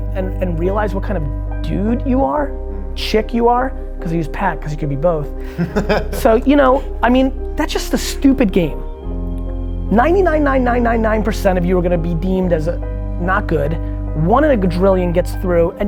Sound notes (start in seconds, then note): 5.4 man 2 laughs